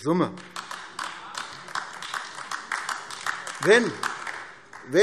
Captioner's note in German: Beifall AfD